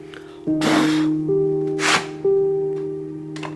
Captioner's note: blowing